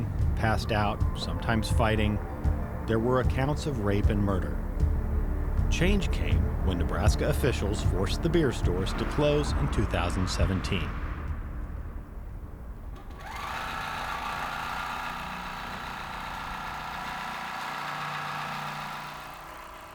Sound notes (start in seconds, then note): 12.8 machine whirring